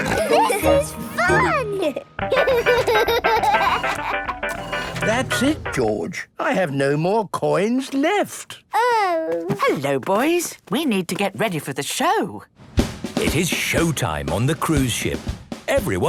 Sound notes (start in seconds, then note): 0.0 giggles, snorts; 2.2 giggling; 4.4 music fades